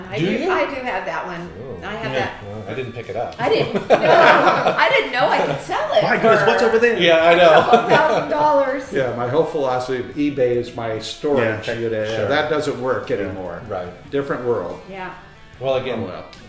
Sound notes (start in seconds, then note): 3.4 laughing; 7.7 chuckles